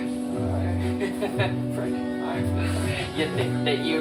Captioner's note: mischievous laughter